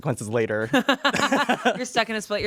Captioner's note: everyone laughs